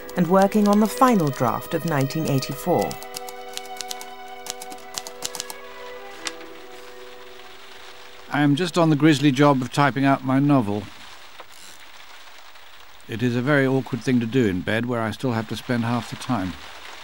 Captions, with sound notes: And working on the final draft of '1984'. (tapping of typewriter keys) I'm just on the grisly job of typing out my novel. It is a very awkward thing to do in bed where I still have to spend half the time.